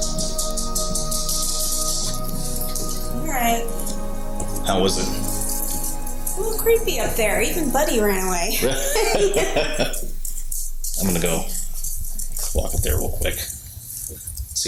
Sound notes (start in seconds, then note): 8.6 both laughing